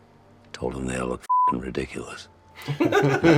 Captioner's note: beeping